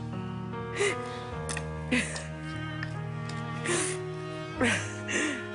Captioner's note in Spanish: Sollozos